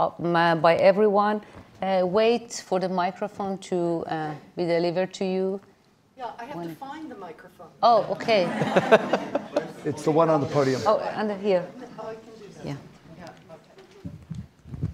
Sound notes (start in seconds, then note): 8.1 audience laughing